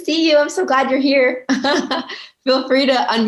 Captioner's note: chuckling